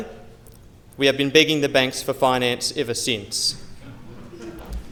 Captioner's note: laughter